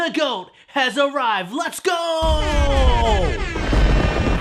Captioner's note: cannon fire